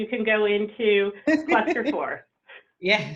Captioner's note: chuckles